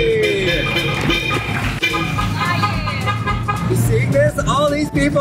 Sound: horns honking

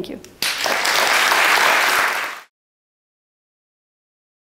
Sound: applause

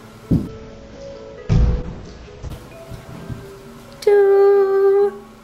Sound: thudding

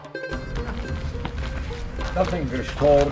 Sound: ground crunching

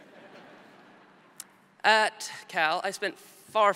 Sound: audience laughs

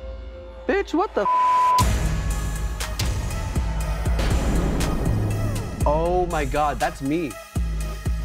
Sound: beep

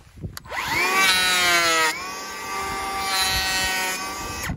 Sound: planer whizzing

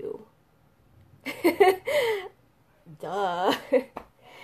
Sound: laughs

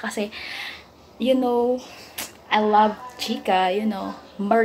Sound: gossips

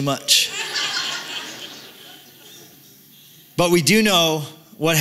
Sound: laughter

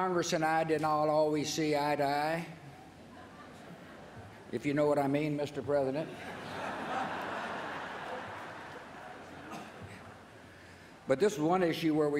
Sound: laughter

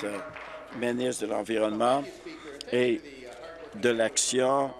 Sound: applause

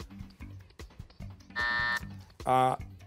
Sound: timer

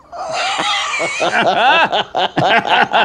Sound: both laugh

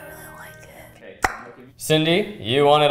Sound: tongue pops

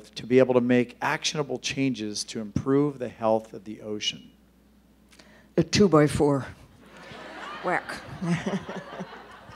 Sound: laughter

